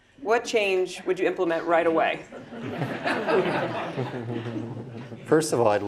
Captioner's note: laugh